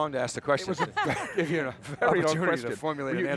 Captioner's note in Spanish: risas